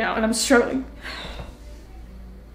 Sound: sighs

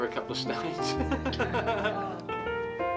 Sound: laughter

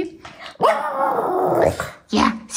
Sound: howling

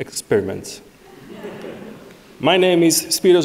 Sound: audience laughing

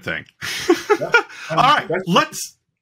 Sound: chuckling

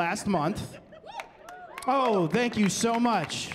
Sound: cheering

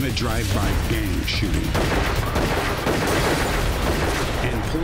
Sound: gun shots

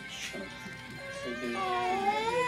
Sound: crying

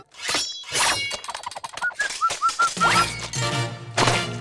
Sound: whistling

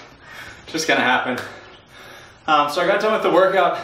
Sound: breathing heavily

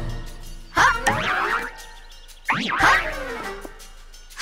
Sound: ponies grunting

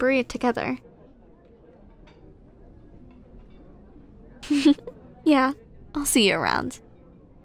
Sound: soft giggle

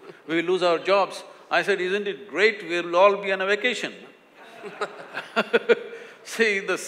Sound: laughter

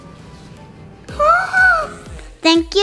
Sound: gasps

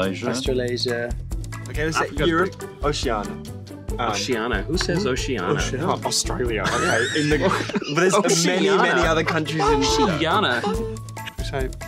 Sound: laughing

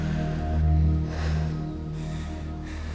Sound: sighs

